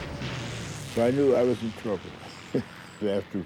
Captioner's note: chuckles